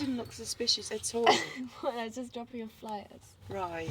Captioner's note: laughs